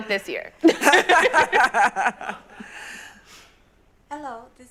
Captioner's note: everyone laughs